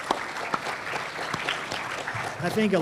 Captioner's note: applause